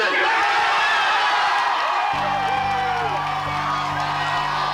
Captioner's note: audience cheering